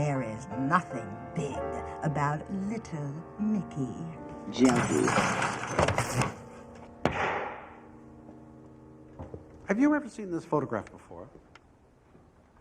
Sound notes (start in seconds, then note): 4.6 glass shatters; 7.0 gavel thunks